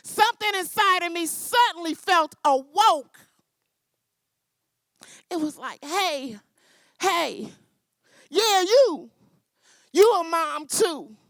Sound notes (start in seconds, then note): none